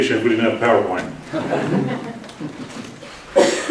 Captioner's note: laughter